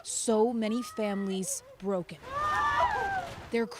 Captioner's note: sobbing